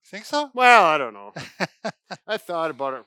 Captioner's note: laughs